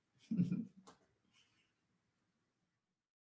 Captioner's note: chuckles